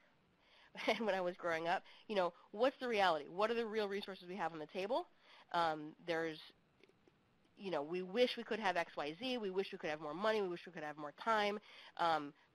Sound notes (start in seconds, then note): 0.8 chuckles